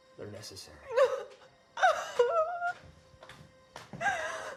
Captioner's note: Maria sobbing